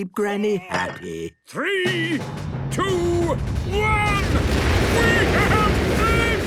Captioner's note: rockets igniting